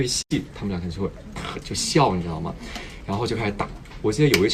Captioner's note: snigger